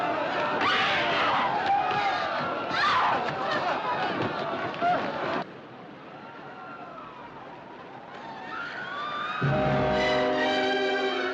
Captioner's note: Grito